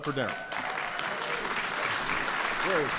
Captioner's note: applause